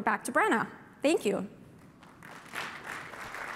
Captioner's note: applause